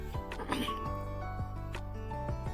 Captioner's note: clears throat